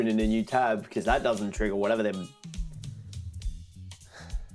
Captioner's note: deep exhale